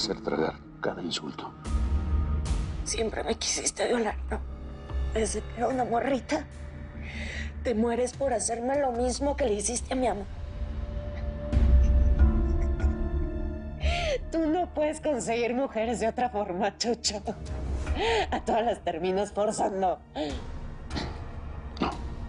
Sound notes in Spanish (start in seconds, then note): 12.4 Risas